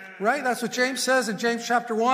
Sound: congregation murmurs

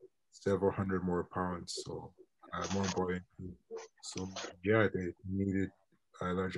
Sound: internet distortion

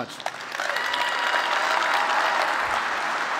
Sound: applause

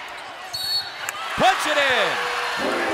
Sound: whistle

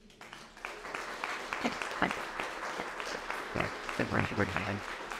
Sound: audience applauding

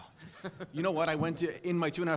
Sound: laugh

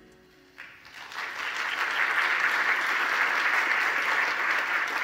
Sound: audience applauding

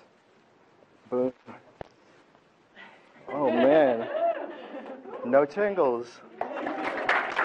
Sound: audience laughs and applause

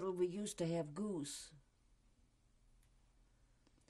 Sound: pauses for 3 seconds

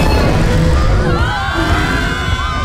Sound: screams

